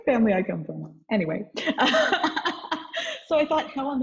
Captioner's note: laughs